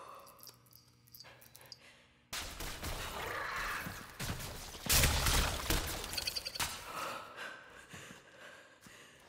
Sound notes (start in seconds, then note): 0.9 panting; 2.5 electricity arcing; 7.0 panting